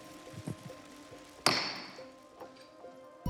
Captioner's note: gavel bangs